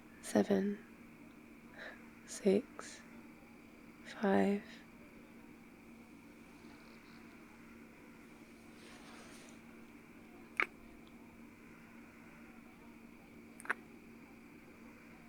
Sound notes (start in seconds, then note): 10.6 kiss; 13.6 kiss